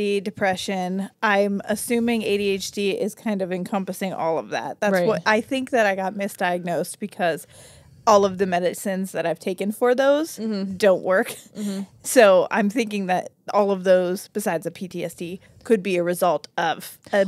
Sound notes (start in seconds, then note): 10.8 chuckles